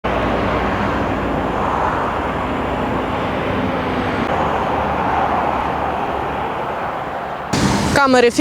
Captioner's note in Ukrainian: шум автомобілів